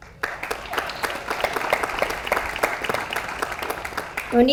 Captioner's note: audience applauds